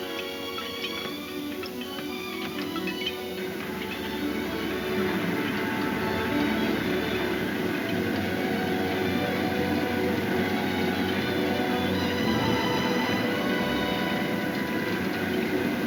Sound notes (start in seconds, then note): 3.2 gears turning